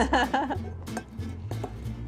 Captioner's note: laughs